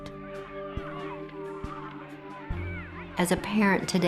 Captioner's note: children shouting playfully